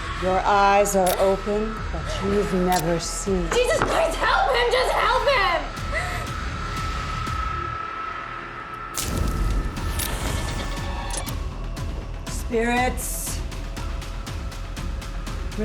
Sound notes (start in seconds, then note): 5.8 tense suspenseful music; 8.9 flame whooshes; 11.1 tense suspenseful music; 13.4 tense suspenseful music